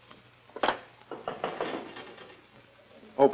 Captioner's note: knock On Door